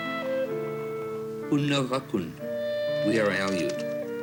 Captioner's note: aleut native language